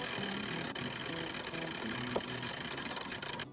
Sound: winch clacking

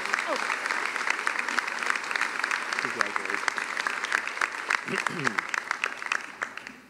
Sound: applause

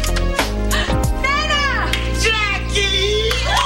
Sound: gasp

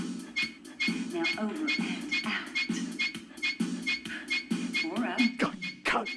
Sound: armor squeaking

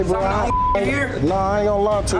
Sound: beep

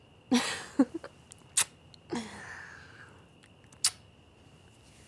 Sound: giggles and fond kisses

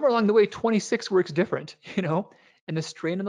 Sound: laughs

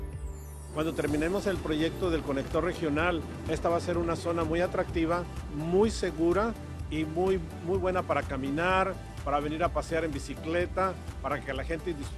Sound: Spanish

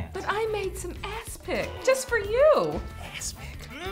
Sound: throwing Up Sound

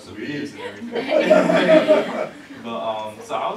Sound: laughter

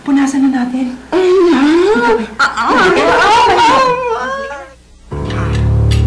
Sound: Emman whining

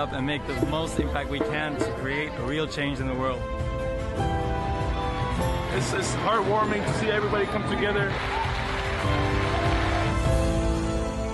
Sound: cheering/Applause

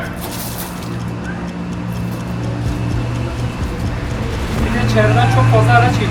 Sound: car noise

